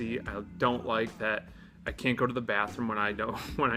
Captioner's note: none